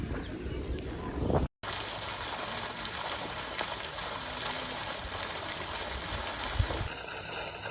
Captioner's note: water Fountain Running